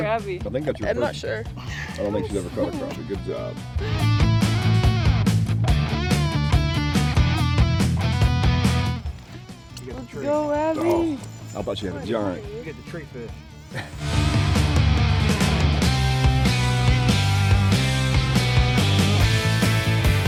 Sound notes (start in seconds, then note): 4.5 upbeat music; 13.6 chuckling; 16.2 upbeat music continues